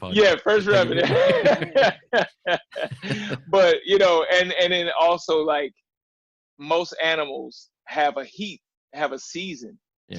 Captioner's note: laughter